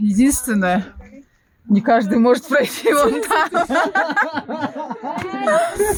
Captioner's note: смеётся